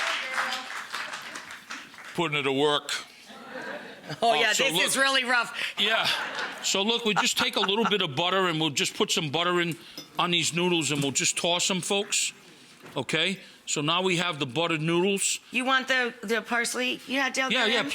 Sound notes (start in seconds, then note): 0.0 audience clapping; 3.4 audience laughs; 6.0 audience laughing